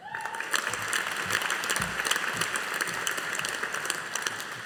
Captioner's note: audience applauding